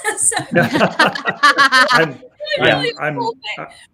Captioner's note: all laughing